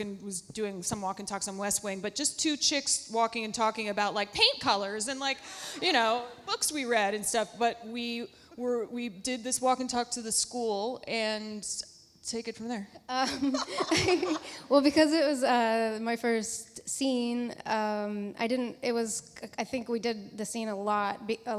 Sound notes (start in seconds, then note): 13.2 Alexis laughs; 13.3 laughs